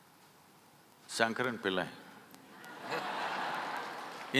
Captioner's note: laughter